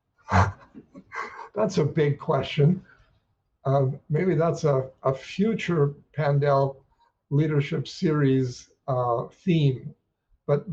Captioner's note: laughs